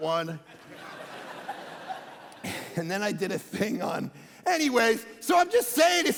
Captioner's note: congregation laughing